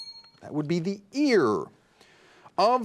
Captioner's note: bell dings